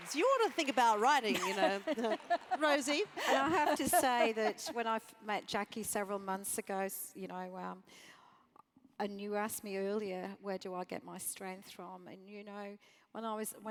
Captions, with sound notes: You ought to think about writing, you know. >> [LAUGH] >> Rosie? >> I have to say that when I met Jackie several months ago, and you asked me earlier where do I get my strength from?